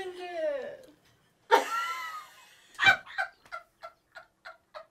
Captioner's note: all laughing